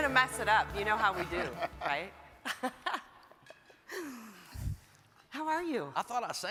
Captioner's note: mayors laugh